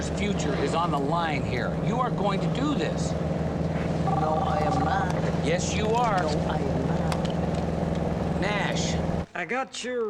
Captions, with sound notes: - My goddaughter's future is on the line here. You are going to do this. (cell phone ringing) - No, I am not. - Yes, you are. - No, I am not. - Nash.